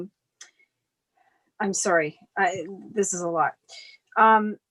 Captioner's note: sighs